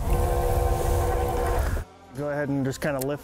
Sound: motor humming

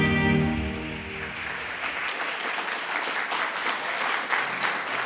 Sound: audience clapping

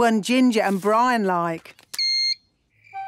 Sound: beep!

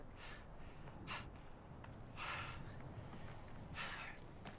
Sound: labored breathing

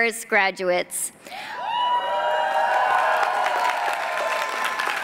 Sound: cheering

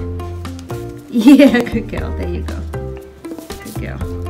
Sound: laughs

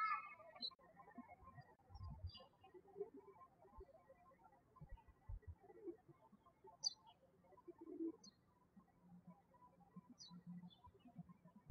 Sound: birds chirping

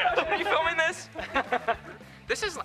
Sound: laughs

